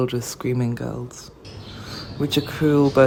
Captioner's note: bird sounds